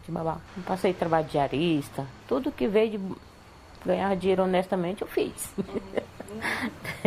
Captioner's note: laughs